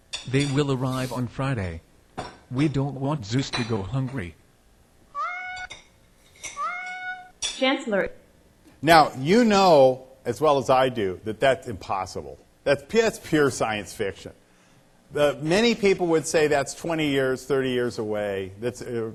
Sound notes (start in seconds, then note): 6.5 cat meowing